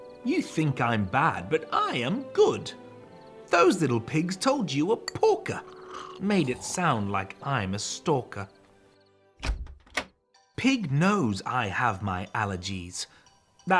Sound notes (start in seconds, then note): 9.4 door clacks